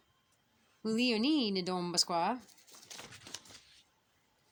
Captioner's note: speaking Abenaki; speaking Abenaki